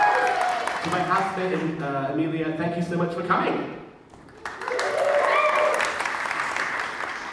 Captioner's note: audience cheers; audience cheers